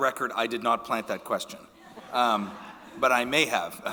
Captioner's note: audience laughing